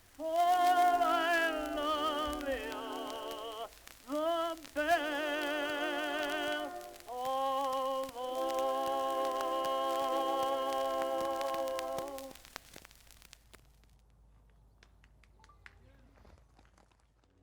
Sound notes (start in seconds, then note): 14.4 people clap